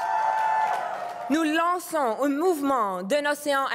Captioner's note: cris et applaudissements